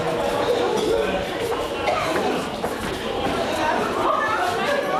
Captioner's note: people coughing